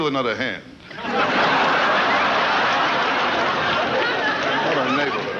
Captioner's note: audience laughing